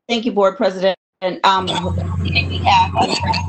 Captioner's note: voice distorting